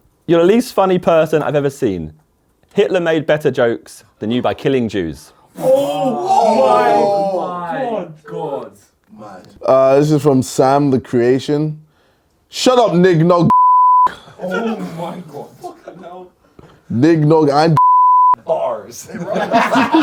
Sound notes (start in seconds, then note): 5.6 audience in shock and amazement; 13.5 beep; 17.8 beep